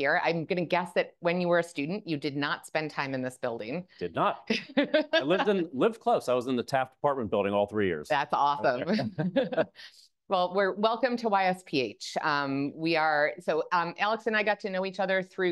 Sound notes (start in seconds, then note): 4.5 laughing; 8.6 both laugh